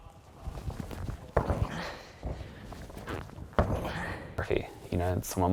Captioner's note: feet thudding